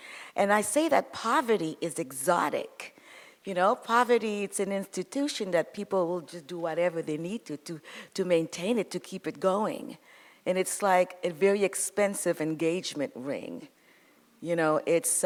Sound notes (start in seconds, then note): none